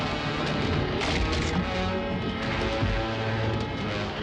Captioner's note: wood clattering